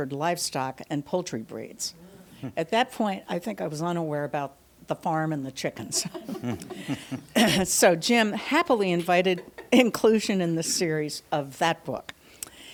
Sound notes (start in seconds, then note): 5.8 panelists laughing